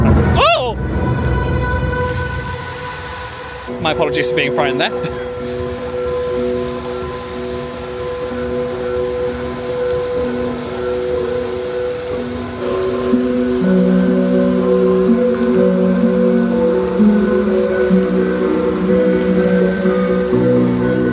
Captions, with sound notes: (dramatic music) Oh! (water splashing) My apologies for being frightened there. (thoughtful music) (water splashing) (thoughtful music continues) (water splashing continues)